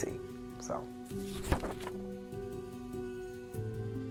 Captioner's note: paper rustling; bright music